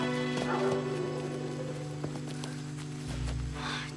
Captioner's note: dog barking in distance